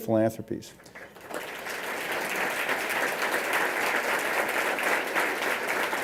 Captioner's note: applause